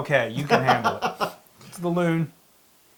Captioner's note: laugh